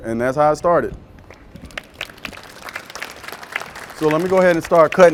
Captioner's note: applause